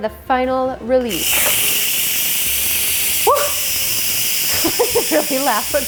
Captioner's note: pressure release sound